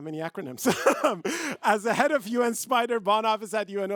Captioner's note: laughs